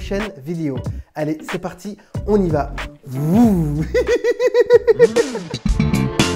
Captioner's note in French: rires